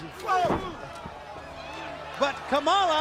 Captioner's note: crowd chatter